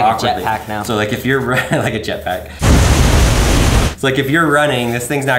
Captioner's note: laughs